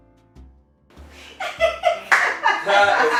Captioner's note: laughing